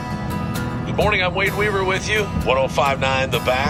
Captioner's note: slow-paced guitar music; radio Announcer